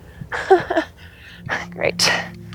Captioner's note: laughing nervously